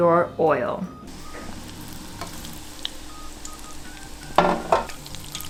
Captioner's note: oil sizzling; pan clattering